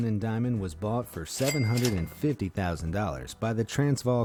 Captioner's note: cash register ringing